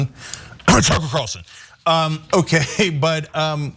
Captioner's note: cough